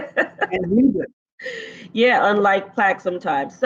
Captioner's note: laughs